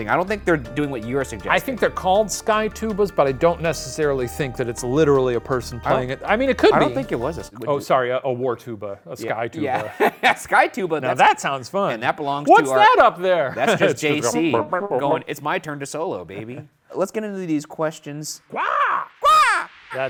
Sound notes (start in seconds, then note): 9.6 laughing; 14.9 imitates trumpet; 18.5 both squawking